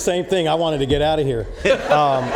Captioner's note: laughs